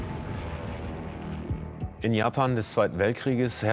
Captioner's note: airplanes drone; in German